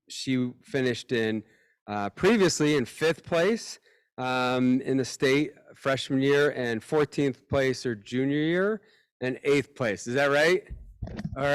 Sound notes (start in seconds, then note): none